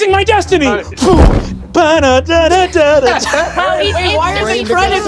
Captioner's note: hums theme song